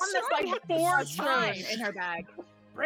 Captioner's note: all laughing